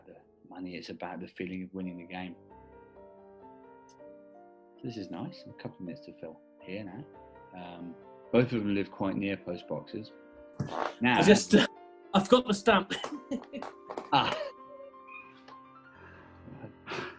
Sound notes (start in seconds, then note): 14.0 laughing